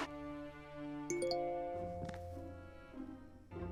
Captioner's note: phone chimes